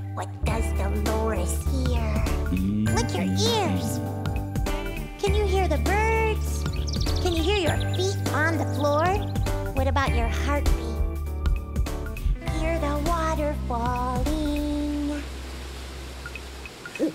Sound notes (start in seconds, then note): 6.6 chirping; 15.1 water Rushing